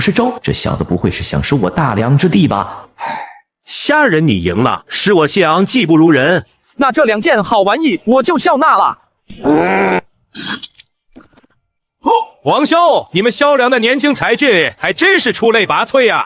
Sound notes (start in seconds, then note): 9.5 chuckles